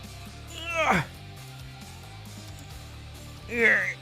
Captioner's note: straining sounds